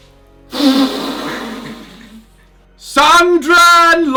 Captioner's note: laughs